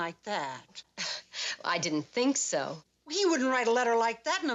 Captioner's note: scoffs